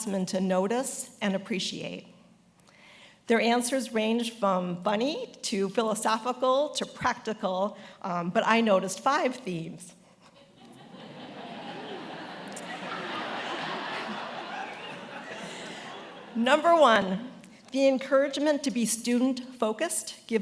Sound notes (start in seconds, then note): 10.4 attendees laughing